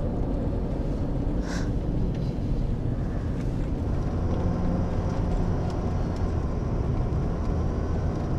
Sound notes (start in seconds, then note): 1.4 Lucy scoffs; 2.2 tense music